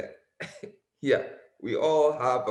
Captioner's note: laughs